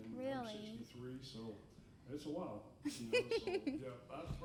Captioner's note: laughing